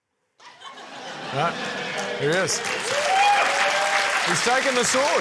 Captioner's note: laughter; cheering, applause